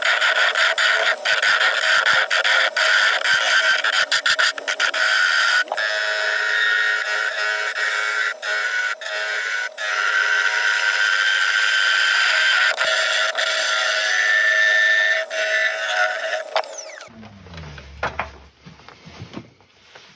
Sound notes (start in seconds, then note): 4.5 woodturning sounds